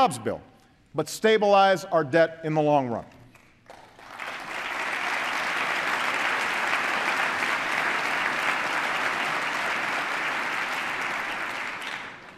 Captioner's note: applause